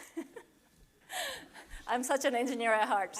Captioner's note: laughing